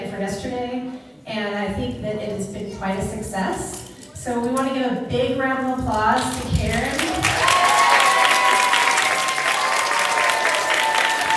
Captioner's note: applause